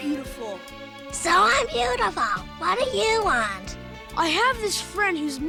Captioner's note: in a weird, high, scratchy voice